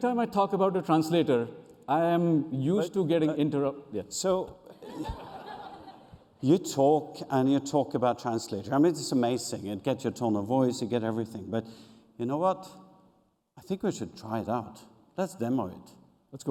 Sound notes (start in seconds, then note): 4.7 laughter